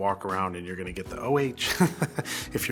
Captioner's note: laugh